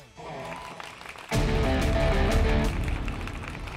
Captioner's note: applause